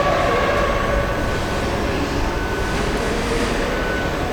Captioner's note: machines whirring